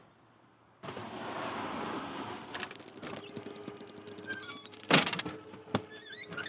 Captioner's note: door creaking